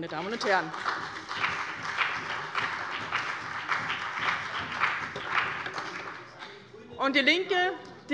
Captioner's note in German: Beifall bei dem BÜNDNIS 90/DIE GRÜNEN und der CDU